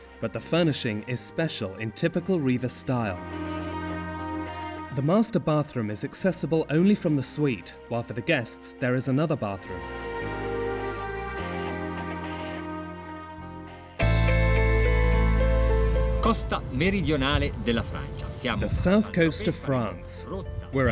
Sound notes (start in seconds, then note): 13.9 upbeat piano music; 16.3 speaking in foreign language